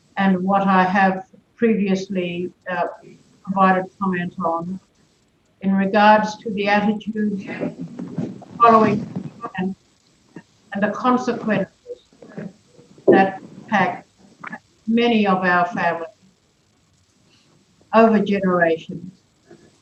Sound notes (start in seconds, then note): 8.2 audio distorted